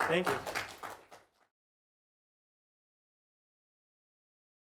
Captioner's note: applause